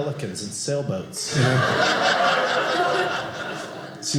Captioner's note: audience laughing